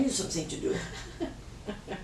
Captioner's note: laughs